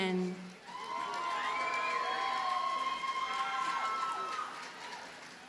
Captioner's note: audience cheers and applauds